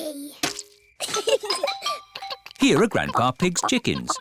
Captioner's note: both giggle